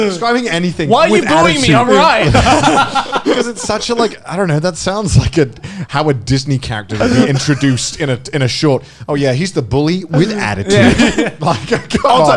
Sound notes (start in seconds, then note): 2.6 all laughing; 10.1 laughing